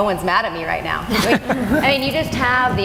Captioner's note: laughing